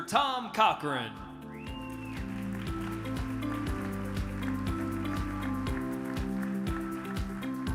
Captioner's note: bright music; audience claps